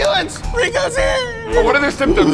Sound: crying

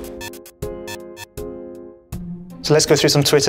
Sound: electronic beeping

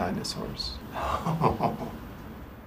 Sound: laugh

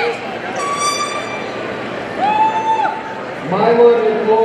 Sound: party blower squeaking

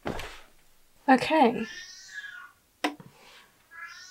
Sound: series of meows

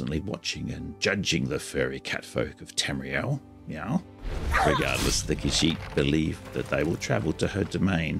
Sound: meow!

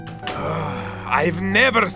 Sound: groans

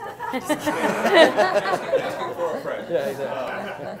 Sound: laughing

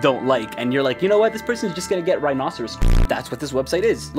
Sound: beep

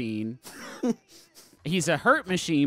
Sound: laughing slightly

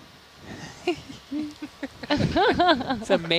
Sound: all laughing

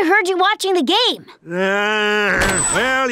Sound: groaning

